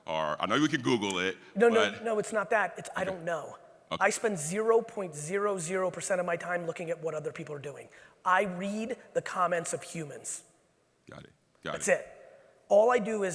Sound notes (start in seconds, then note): none